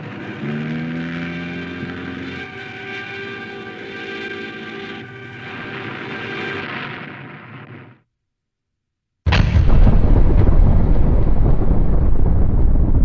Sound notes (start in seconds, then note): 0.1 sound of plane nose-diving; 9.2 explosion